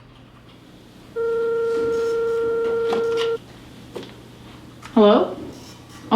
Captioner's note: telephone ringing